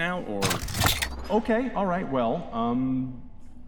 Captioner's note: futuristic rifle cocking